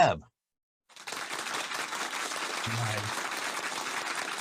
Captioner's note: hands clapping